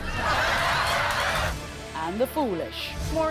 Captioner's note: crowd laughing